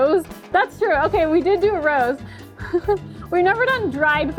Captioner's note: laughs